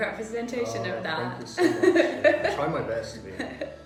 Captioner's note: laughs